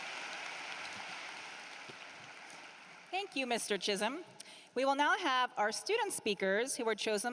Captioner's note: applause